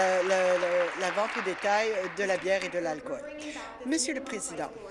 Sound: applause

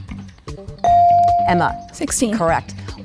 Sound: dinging

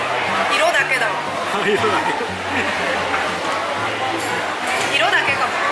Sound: laugh

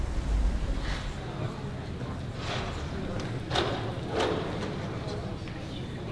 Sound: general crowd chatter

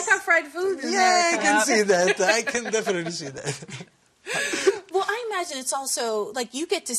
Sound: laughter

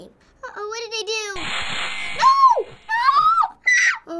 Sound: saw buzzes; shrieks

